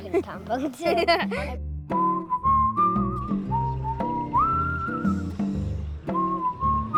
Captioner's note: boys laugh; bright music